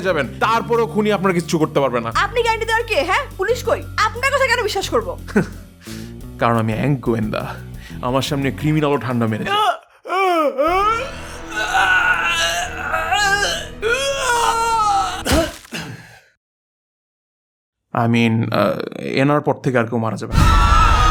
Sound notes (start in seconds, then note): 9.4 screaming and struggling sounds